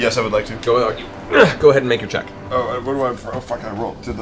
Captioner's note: grunts